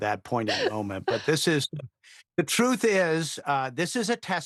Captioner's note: laughter